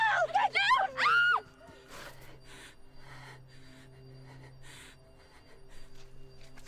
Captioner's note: Marianne screams; soft dramatic music